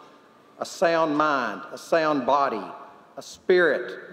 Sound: none

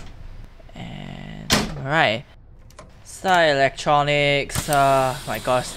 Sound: closes cab door

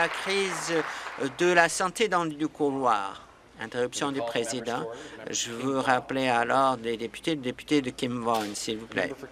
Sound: applause

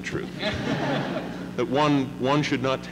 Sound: laughter

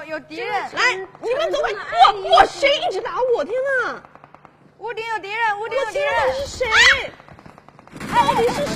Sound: scream

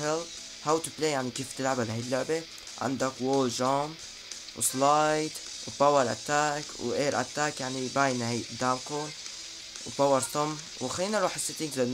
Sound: translating in Arabic

